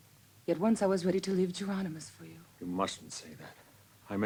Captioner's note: none